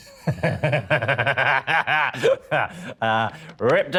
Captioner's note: Danny laughs